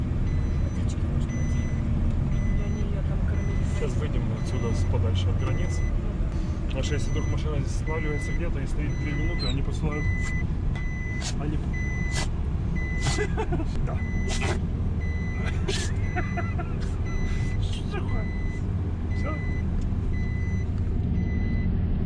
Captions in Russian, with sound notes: - Может водички ей дать. - Сейчас выедем отсюда, подальше от границы. Потому что если машина здесь сваливается и стоит три минуты, они посылают наряд. (Зои чихает) Что такое?